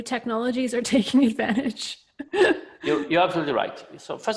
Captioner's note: laughs